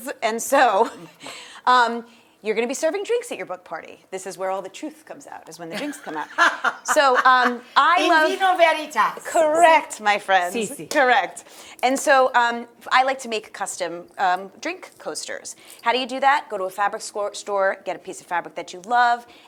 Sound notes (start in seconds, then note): 5.6 Rachael laughing